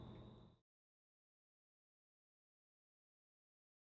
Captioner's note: no sound